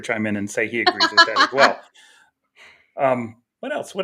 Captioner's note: laughing